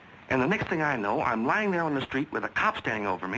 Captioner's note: none